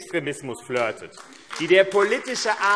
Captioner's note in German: Beifall AfD